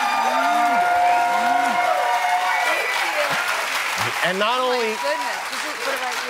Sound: cheers and applause

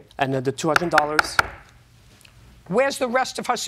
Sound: gavel bangs

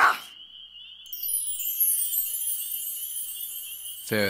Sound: chimes ring

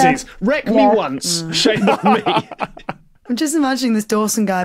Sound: laughs

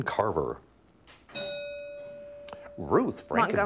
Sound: bell ringing

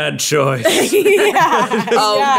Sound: all laughing

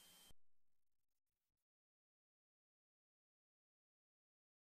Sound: silence

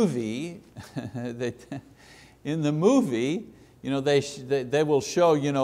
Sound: chuckles

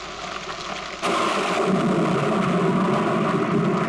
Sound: thunder crashing

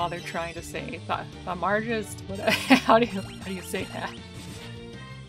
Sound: laughing

